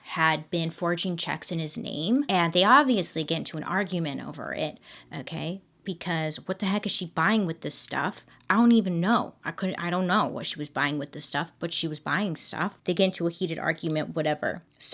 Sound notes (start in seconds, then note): none